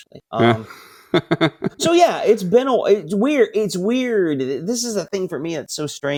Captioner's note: laughing